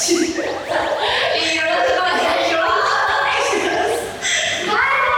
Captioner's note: laughs